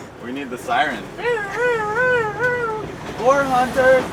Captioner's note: imitating siren